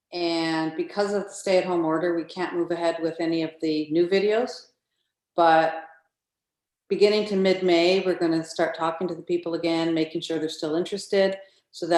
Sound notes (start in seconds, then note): none